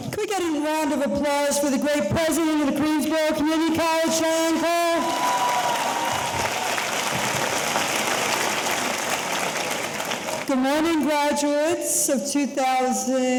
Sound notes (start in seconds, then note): 4.9 audience cheering; 4.9 audience applauding